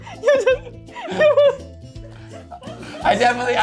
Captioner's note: laughing